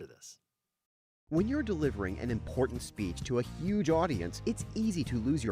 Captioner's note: voiceover